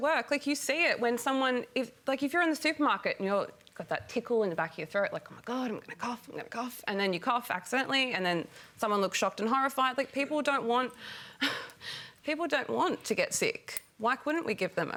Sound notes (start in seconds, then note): 11.5 sighs